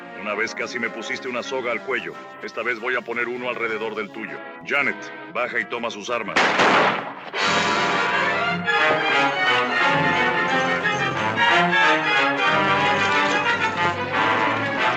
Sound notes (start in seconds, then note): 6.3 gunshot; 8.2 tense music